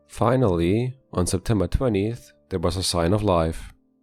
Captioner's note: none